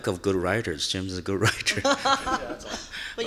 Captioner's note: chuckles; laughing